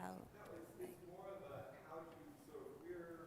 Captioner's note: voiceover